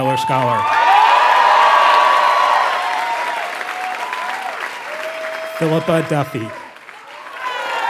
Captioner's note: applause